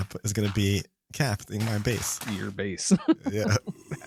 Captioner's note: laughs